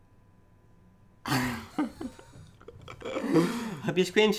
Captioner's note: laughs